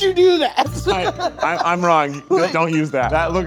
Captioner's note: laughing